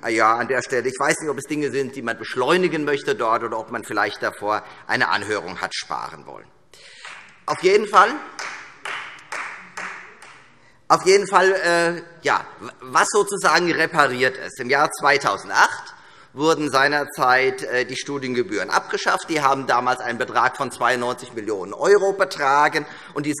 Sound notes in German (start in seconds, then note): 6.4 Beifall Freie Demokraten